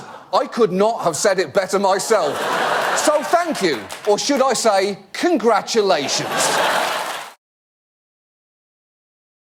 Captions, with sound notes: Donald, I could not have said it better myself. -(AUDIENCE LAUGH) -So thank you. Or should I say, "Congratulations"?